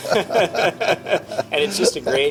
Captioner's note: laughing